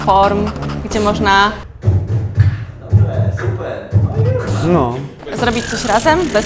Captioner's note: beatbox